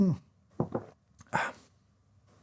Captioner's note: cup clonk